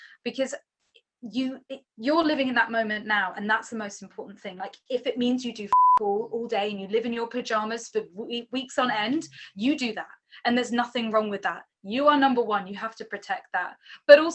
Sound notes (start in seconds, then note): 5.7 beep